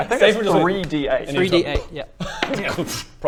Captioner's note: slap; poof